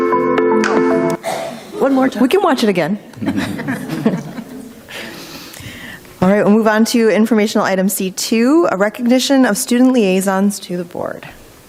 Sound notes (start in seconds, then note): 0.0 bright music; 3.1 group laughs